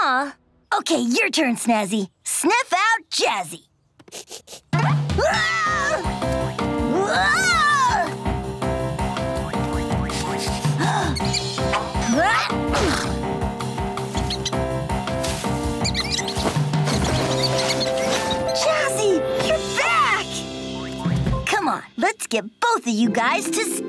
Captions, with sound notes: Okay, your turn, Snazzy. Sniff out Jazzy! [sniffing] Whoa! Whoa! [sniffing] [gasping] [squeaking] Jazzy! You're back! Come on, let's get both of you guys to Stella.